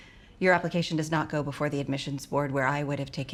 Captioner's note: none